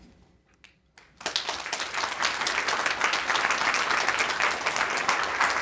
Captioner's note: audience applauding